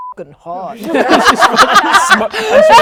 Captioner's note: laughing